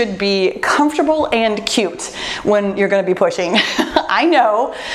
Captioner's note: laughs